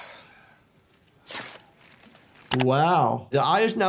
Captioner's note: knife slicing